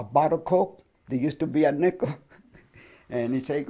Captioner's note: chuckles